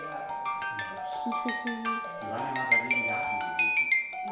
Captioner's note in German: kichert